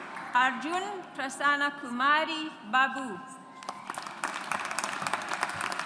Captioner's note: audience applauds